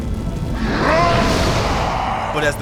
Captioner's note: roaring